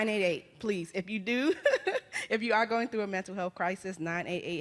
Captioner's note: laughs